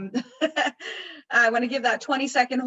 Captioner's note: laughs